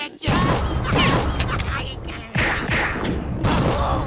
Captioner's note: guns firing